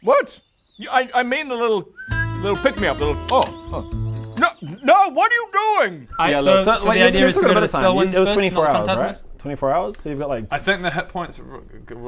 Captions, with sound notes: WHAT? I mean a little *whistle* little pick me up, little *click click* Oh No! No! What are you doing?!? - So you've still got a bit of time, it was - Alright so the idea is to go to the Sylwyns first - 24 hours right? - not the Fantasmos? 24 hours you've got like I think the hit points